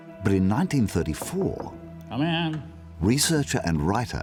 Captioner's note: knock on door